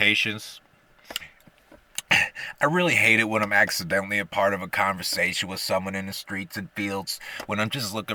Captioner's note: gulp